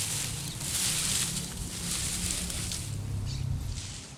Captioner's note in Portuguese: pássaros e veículos ao fundo